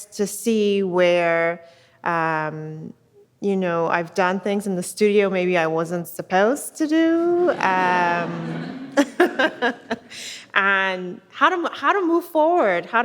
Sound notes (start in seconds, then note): 7.3 audience laughs